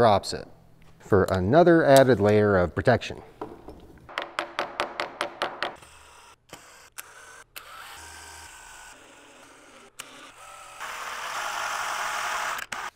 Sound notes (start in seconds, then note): 4.1 gentle hammering; 5.7 screwdriver whirs